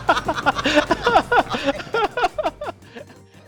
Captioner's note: laughing